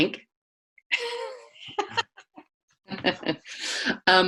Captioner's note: laughs